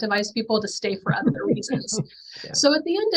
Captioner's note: chuckling